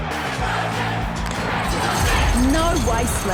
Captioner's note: crowd chanting